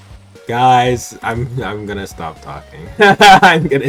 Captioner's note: giggle